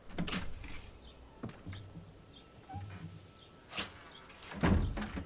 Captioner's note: digging in the background